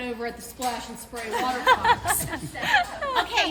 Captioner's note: laughing